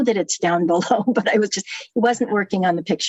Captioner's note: laughter